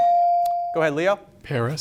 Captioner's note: bell sounding